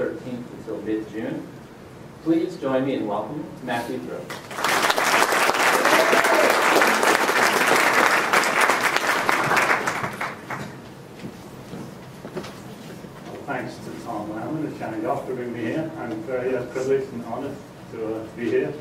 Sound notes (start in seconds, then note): 4.3 applause